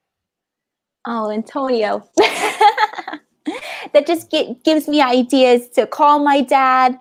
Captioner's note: laughs